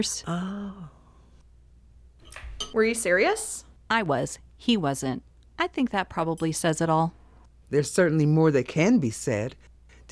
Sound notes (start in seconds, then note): none